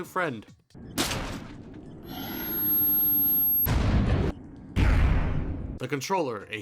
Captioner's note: crash, tinniuts, vine boom, idk